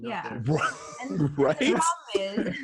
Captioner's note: laughs